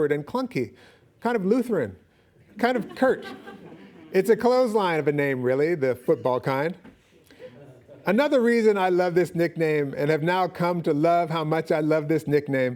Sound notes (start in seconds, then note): 2.6 audience laughing